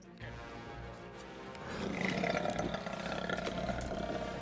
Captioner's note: lion growls